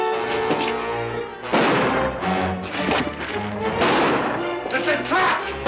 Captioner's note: gunshots